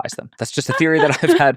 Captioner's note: laughing